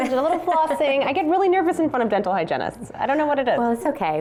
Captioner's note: laughter